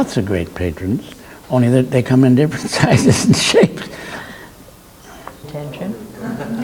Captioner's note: laughs